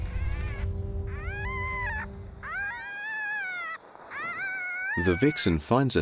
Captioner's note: pups whimpering